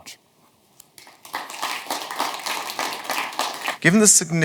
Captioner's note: audience applauds